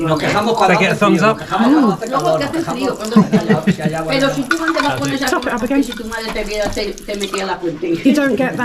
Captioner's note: laughs